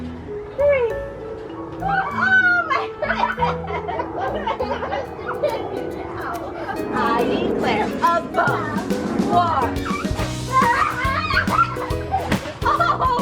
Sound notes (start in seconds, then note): 2.3 both laugh; 10.5 laughs